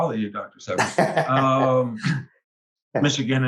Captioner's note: laughs